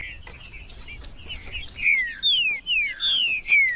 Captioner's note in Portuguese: trinca ferro cantando